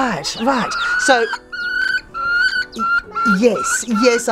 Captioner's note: clucking sounds can be heard